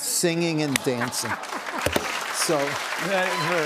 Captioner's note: applause